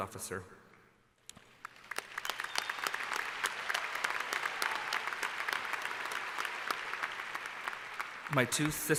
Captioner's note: applause